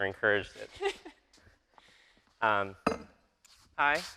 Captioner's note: laughing